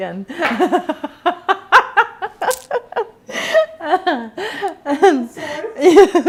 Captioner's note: laughing